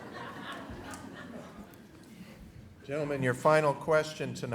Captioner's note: laughter